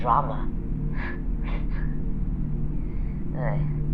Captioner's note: chuckles